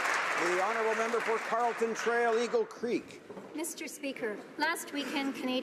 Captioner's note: applause